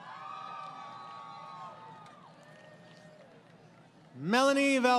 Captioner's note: crowd Cheering